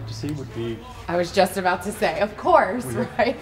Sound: laughs

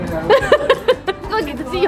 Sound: chuckled

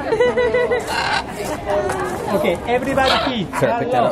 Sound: chuckles

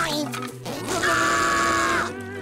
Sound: screaming

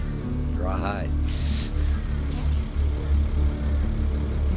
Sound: laughs

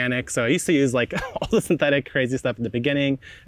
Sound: laughing

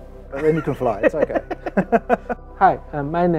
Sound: both laughing

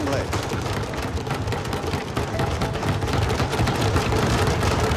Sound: pounding on desks

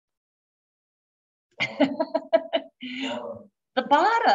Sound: laughs

